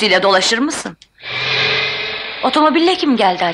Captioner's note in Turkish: Sokaktan motor sesi